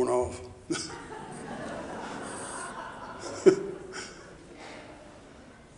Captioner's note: audience laughing